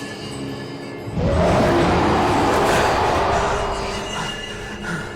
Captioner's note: creature roaring; Jed breathing heavily